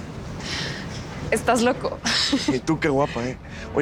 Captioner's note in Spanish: Risas